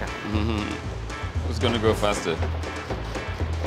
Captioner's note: laughs